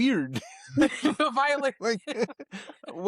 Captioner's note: laughing